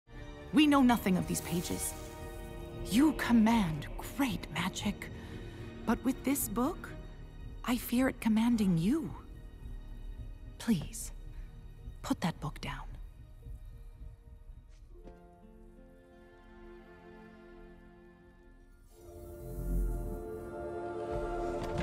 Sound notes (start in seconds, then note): 0.9 magical whoosh; 14.6 uplifting music plays; 18.8 magical book noises